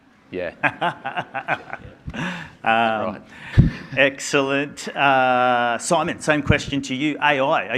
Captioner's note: laughs